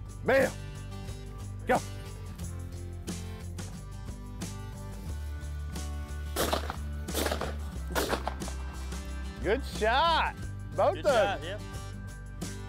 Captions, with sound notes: Belle, go! (uplifting music) (gun firing) Good shot, both of ya. - Good shot, yep.